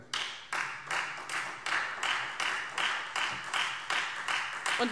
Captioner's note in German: Beifall Freie Demokraten